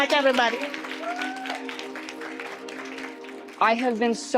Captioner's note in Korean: 박수